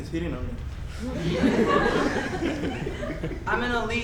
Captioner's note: audience laughs